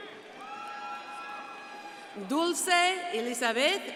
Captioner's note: crowd cheering and applauding